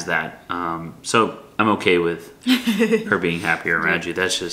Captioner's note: laughs